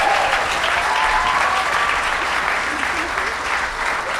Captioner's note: audience cheers